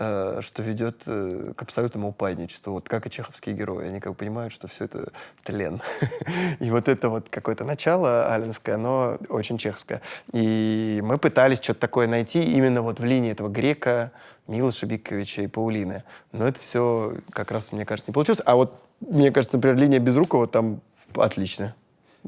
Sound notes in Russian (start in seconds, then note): 5.9 смеется